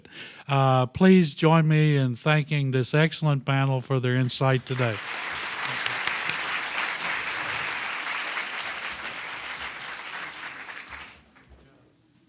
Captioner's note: applause